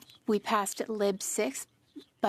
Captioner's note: speaking French